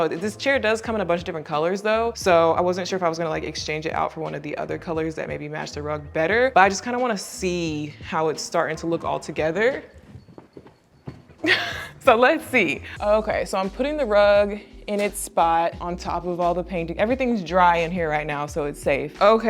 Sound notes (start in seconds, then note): 11.4 laughs